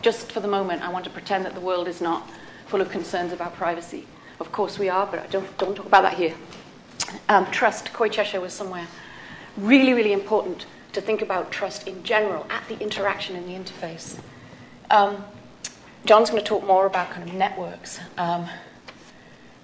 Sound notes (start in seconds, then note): none